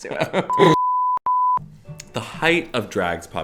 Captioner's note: electronic beeping